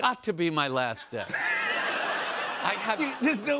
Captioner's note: laughter